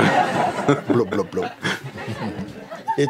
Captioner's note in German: Lachen